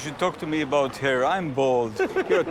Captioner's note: laughing